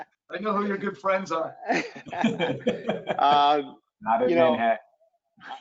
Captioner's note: laughter